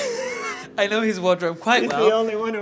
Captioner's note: John laughs